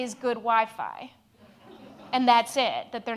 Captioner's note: audience laughs